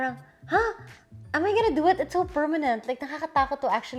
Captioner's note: none